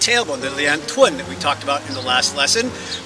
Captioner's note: speaks in foreign language